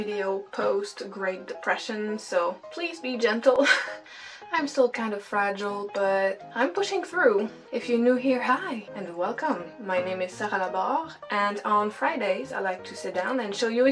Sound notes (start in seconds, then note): 3.8 laughs